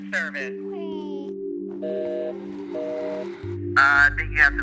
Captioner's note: busy signal